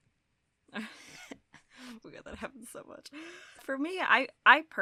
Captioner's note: chuckles